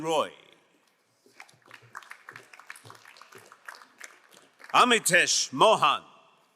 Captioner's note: crowd applauding